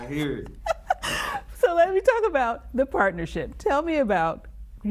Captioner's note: laughs